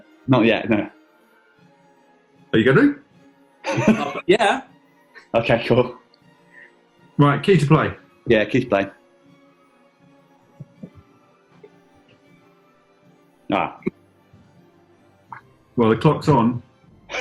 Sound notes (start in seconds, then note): 3.6 laughing; 17.0 laughing